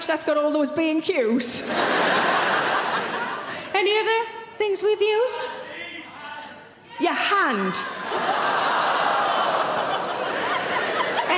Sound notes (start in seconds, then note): 5.3 audience members shouting; 7.8 audience laughing